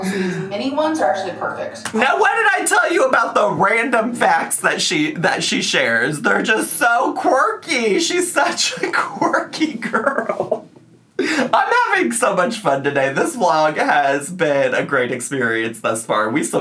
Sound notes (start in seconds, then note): 7.9 laughs